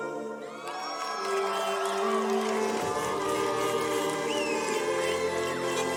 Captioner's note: cheers and car horns